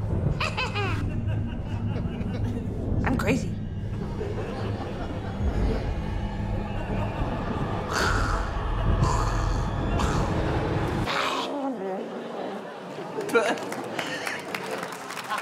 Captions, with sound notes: Heh-heh-heh! I'm crazy. (RASPS) (GURGLES) (LAUGHS)